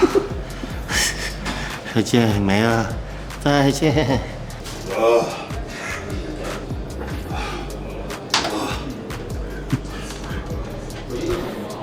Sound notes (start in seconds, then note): 5.1 spit